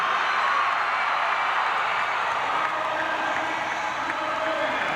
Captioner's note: crowd cheers